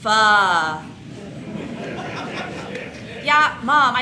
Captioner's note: audience laughs